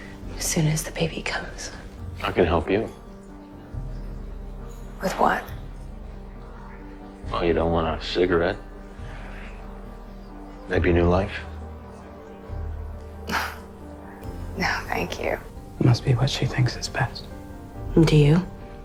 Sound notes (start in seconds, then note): 12.9 Serena laughs; 14.5 voiceover